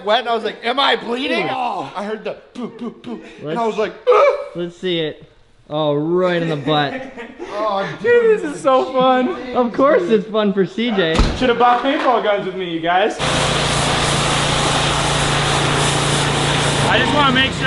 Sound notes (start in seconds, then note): 6.4 laughing